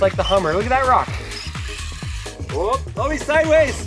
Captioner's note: RC car whining